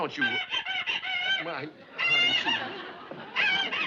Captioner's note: pickles crying on phone